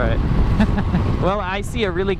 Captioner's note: laughs